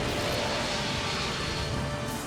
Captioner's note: lightning crashes, thunder rumbles